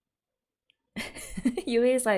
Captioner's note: laughs